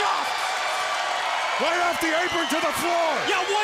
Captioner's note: crowd cheering